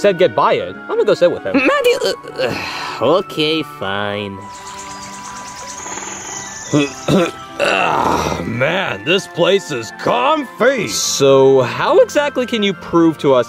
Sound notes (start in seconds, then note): 1.9 sighs; 4.4 animals chirping; 6.7 grunts